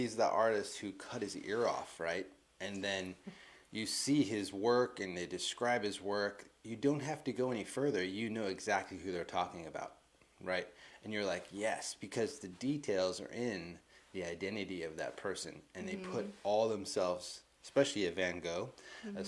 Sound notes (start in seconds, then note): none